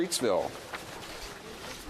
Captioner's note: speaking French